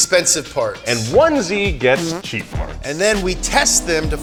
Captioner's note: dollars chime; dollar sign toots